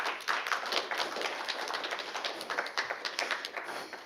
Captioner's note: audience applauds